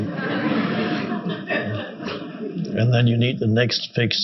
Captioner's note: audience laughing